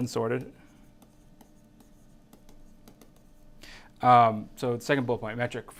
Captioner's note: stylus tapping on screen